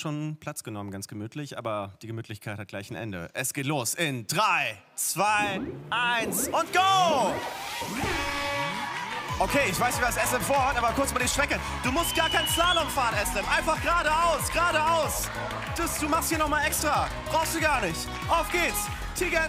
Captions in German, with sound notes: Die Gemütlichkeit hat gleich ein Ende. Es geht los in drei, zwei, eins. Und go! (Jubel) Ich weiß nicht, was Eslem vorhat. Aber kurz die Strecke. Du musst keinen Slalom fahren. Geradeaus. Du machst hier noch mal extra. Auf geht's.